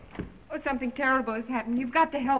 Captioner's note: door thuds